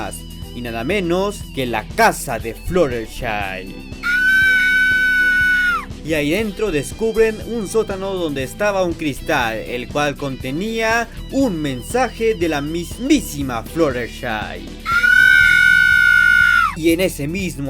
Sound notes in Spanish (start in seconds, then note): 4.0 Gritos de perra loca; 14.8 Gritos de perra loca X2